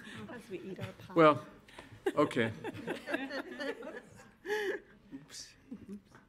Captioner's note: board laughs